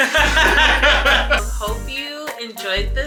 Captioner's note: both laughing